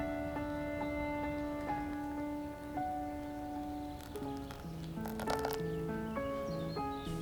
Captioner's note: hot water pours